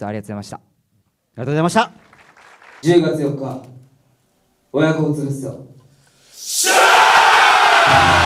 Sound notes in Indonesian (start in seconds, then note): 1.9 tepuk tangan